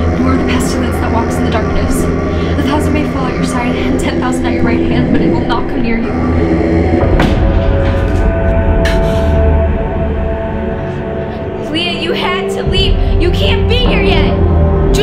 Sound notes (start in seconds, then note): 6.1 demon moans; 7.9 dramatic music